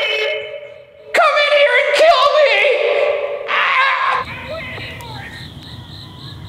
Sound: screams

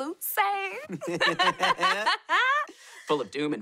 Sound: laughing

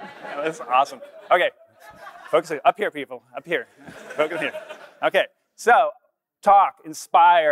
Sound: laughter

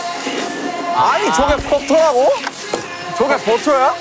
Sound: flapping

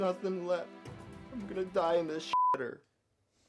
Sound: beep

